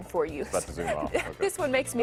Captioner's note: laughter